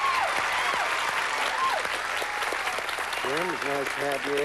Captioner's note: applause